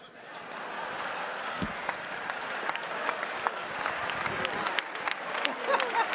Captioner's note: attendees laughing and applauding